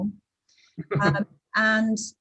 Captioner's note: laughs